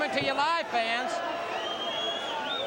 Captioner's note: crowd chatter